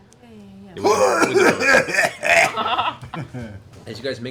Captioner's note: coughs loudly